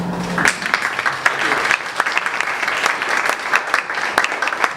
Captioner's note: everyone Applauds